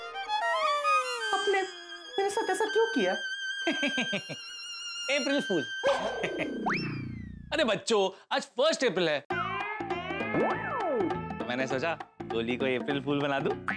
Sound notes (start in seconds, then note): 3.6 sarcastic laughter